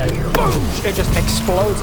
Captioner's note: boom!